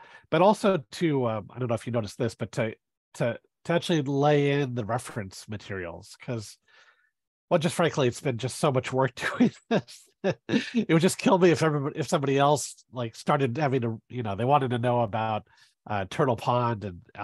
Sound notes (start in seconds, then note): 10.3 laughs